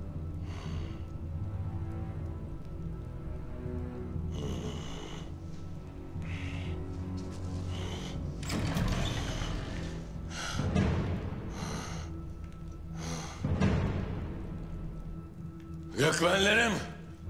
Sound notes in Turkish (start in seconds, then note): 0.4 Nefes sesleri; 8.3 Kapı açılma sesi; 10.2 Nefes sesleri